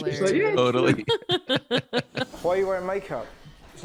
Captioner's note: laughing quickly